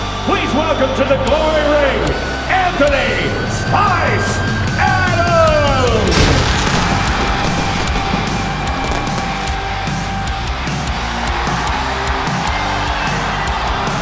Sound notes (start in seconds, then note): 6.1 audience cheering; 6.1 intense rock music